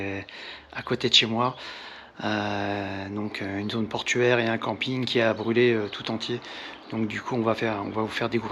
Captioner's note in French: soupir